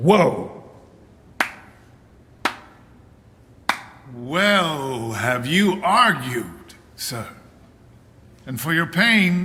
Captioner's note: slow clapping